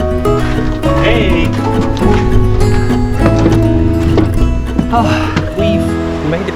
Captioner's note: sighs